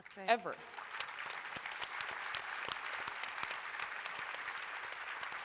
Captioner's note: applause